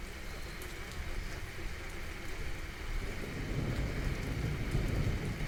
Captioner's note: the rain continues